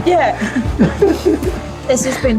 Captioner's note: chuckling